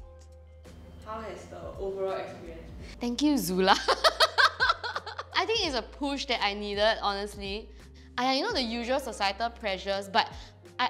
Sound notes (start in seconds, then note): 3.8 laughs